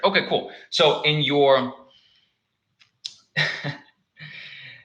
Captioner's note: laughs